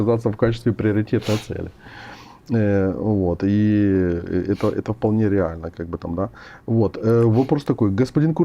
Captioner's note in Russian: фыркает